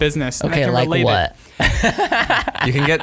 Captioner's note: laughing